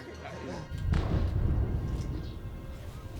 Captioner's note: explosion in distance